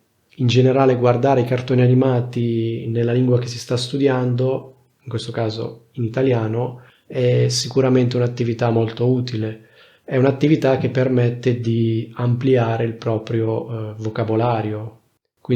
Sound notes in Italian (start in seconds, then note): 5.0 in questo caso in italiano